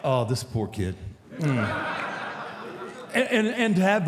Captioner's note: audience laughs